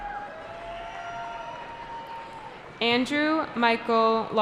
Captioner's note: cheering